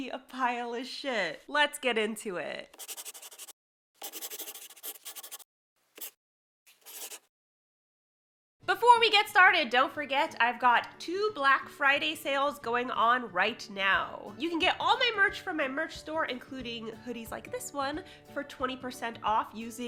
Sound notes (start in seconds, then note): 4.0 the sound of a pen scratching. LOGO